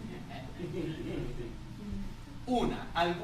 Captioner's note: laughter